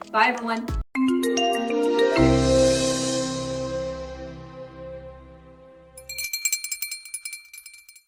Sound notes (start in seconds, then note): 0.0 upbeat music; 6.0 bell chiming